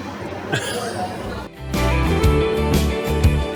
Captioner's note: laughter